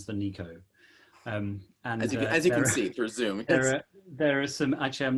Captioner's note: laughs